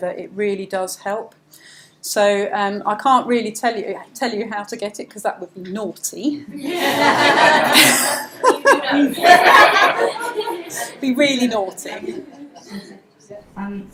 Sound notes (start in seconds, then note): 6.6 audience laughs